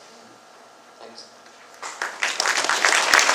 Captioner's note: clapping